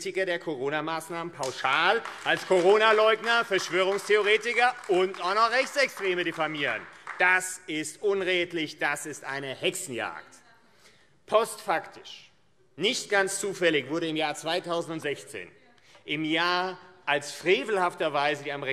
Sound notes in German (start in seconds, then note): 7.4 Beifall AfD